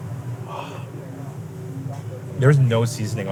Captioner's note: sighs